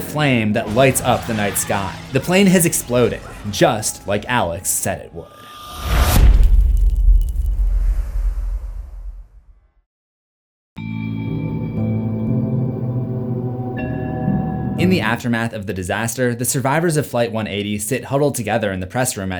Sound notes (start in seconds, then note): 5.8 impact